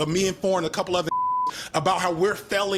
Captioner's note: beep